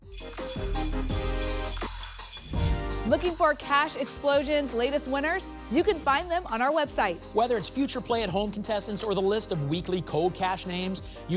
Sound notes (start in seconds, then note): 0.0 sleigh bells